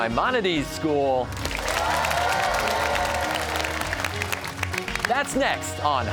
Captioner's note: cheers and applause